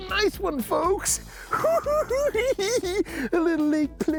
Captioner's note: cackling